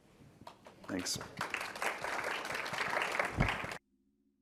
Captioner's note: applause